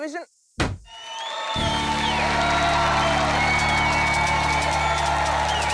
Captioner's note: applause